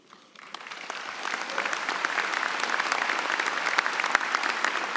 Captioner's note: applause